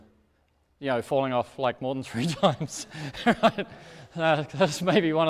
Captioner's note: laughs